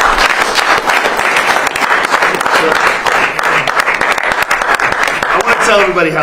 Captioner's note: applause